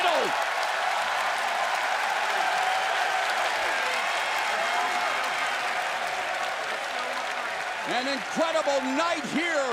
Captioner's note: crowd cheering